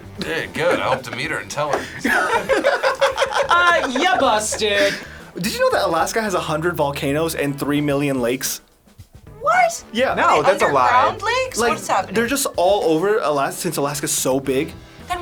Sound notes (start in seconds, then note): 1.7 everyone laughing